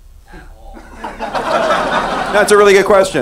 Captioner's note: laughing